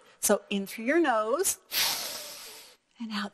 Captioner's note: breathing